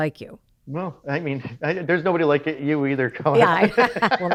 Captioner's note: laughs